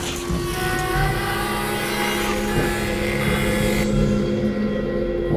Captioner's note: car crashing; saw whining